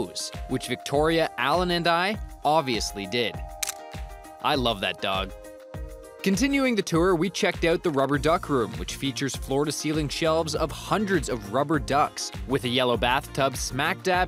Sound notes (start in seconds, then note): 3.6 camera click